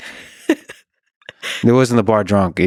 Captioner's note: laughing